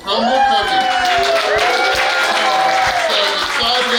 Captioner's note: cheering & Clapping